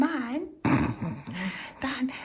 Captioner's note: snorts